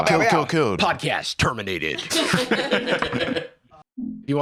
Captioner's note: others laughing